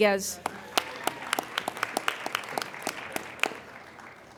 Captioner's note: applauding